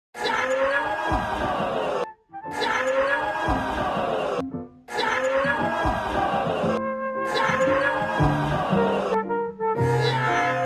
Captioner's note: Crowd cheers over Mr Men theme